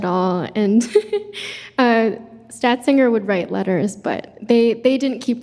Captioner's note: chuckles